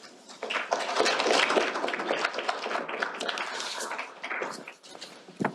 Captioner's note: applause